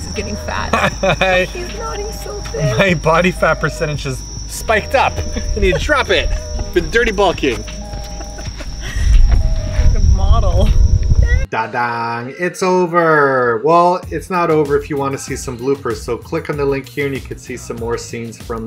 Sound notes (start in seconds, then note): 0.2 laughs